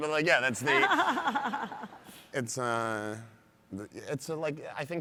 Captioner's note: audience laughs